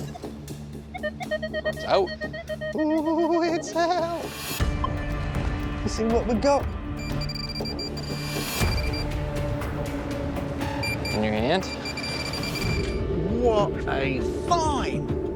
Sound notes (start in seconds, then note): 1.0 metal detector beeping; 7.0 pinpointer beeping